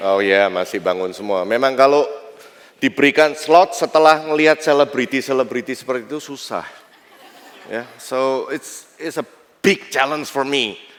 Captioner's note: non-english speech